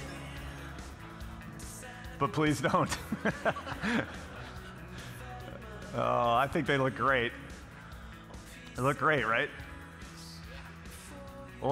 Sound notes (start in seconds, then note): 2.7 laughing